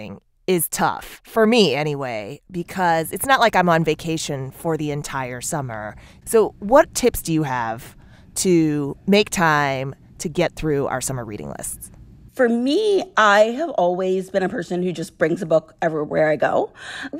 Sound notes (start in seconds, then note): none